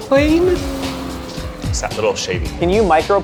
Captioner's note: plane humming